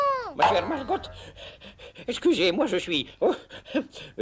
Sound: panting

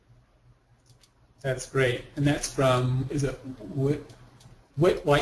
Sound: voiceover

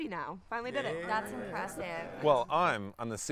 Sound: group murmers approvingly

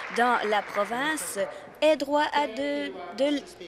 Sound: applause

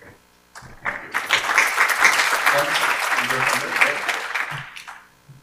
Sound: applause

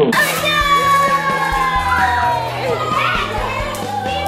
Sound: kids cheering

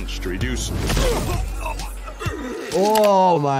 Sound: blow thuds

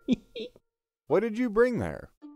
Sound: Stringbean laughs

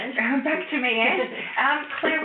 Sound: laughs

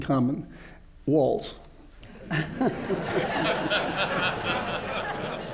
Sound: laughter

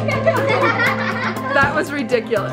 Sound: laughter

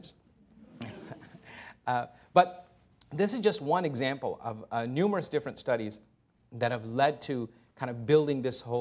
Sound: chuckles

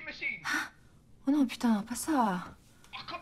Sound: cursing in French

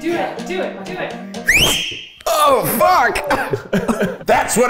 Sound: whistles

